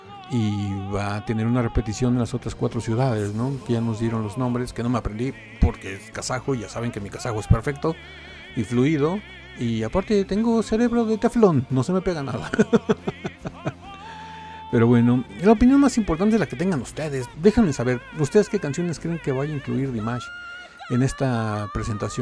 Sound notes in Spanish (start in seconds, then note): 12.3 risas; 20.2 lloros